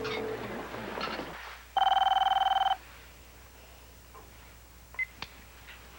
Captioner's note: telephone rings